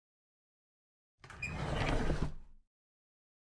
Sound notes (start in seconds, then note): 1.2 sound of drawer